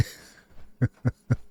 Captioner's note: laughter